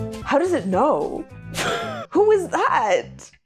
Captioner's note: laughs